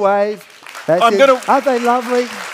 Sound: audience claps

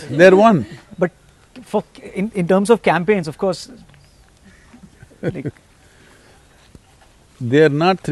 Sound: Sadhguru laughs

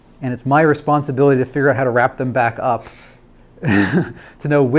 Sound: laughs

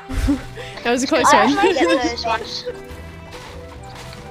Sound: laughs

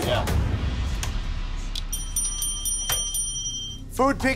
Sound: dinging

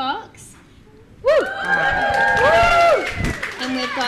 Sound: audience applauds and cheers

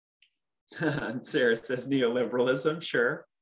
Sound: laughing

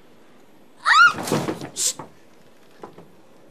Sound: shrieks

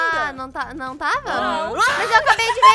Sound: screams and laughter; laughing

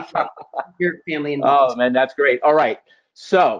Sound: voice muffled

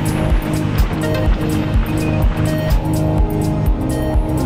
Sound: wind whooshing; boat engine roaring

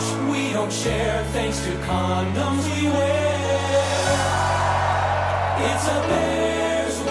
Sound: crowd cheering

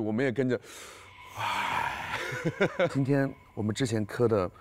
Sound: gasping

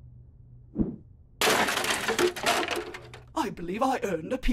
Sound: crash

